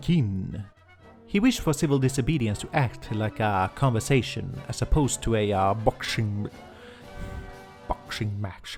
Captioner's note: sigh